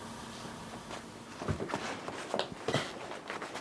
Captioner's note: rustling